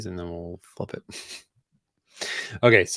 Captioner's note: chuckles